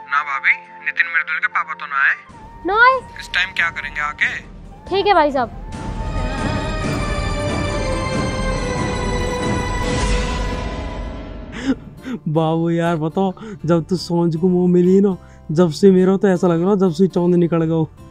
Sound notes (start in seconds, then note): 6.1 serious music playing; 11.5 chuckles